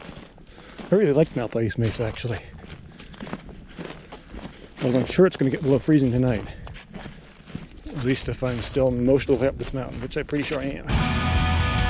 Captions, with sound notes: I really like Malpais Mesa, actually. (footsteps thumping) Well, I'm sure it's gonna get below freezing tonight, at least if I'm still most of the way up this mountain, which I'm pretty sure I am.